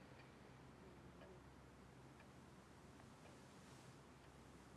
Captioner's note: none